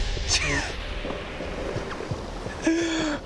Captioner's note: laughing